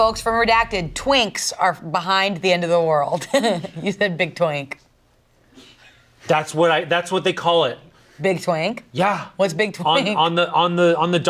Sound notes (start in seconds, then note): 3.5 laughs